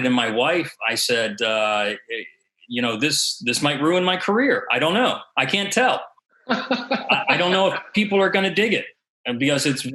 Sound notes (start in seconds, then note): 6.5 laughs